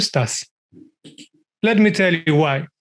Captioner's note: mouse clicking